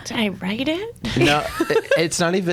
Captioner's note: laughs